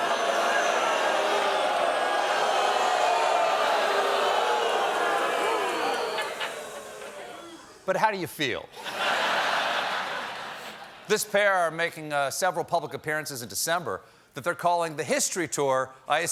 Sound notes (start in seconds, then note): 0.0 booing; 8.7 laughter